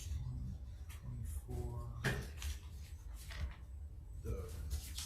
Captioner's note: group chatter quietly